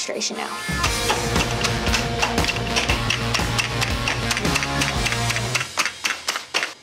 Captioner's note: rousing rock music; rolling pin smacking